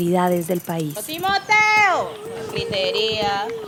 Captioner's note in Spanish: Voces variadas